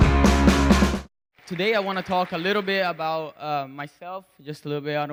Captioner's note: intro Music; audience Applause